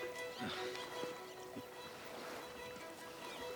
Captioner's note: lively pensive music; Jean scoffs